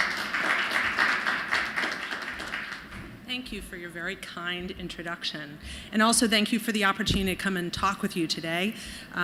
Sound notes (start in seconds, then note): 0.0 applause